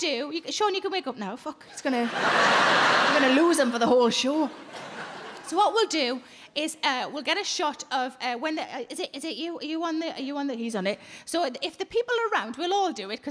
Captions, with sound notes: Sean, you can wake up now, fuck. (crowd laugh) We're gonna lose him for the whole show. So what we'll do is we'll get a shot of when, is it you, is it you, are you on the, you on the, he's on it. So if the people around, we'll all do it,